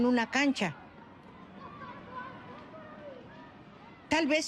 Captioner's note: yelling, clamouriring